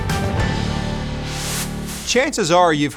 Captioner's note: dramatic music fades; air whooshes